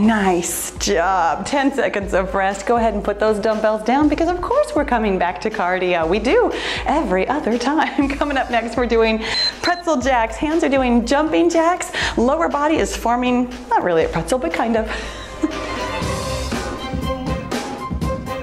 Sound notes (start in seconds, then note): 9.1 timer beeps; 15.4 cheerful music